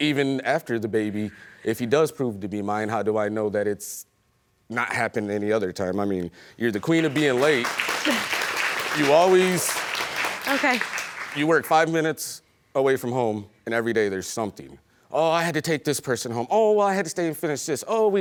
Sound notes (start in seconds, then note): 7.6 chuckles